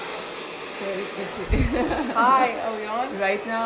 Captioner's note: laughs